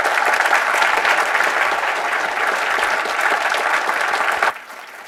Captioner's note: applause